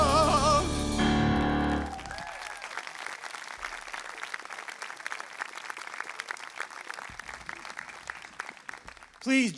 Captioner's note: applause